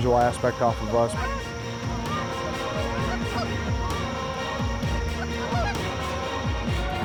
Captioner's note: goose calls